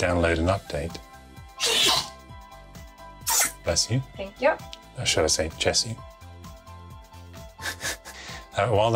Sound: laughs

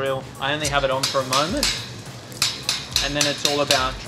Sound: knife banging

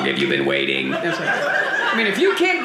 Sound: audience laughing

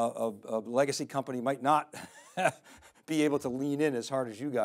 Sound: chuckles

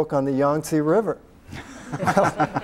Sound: laughter

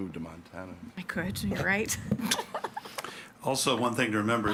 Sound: laughs

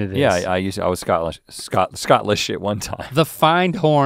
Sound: laughs

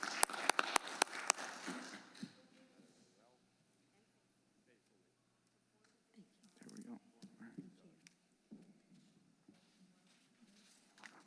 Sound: applause

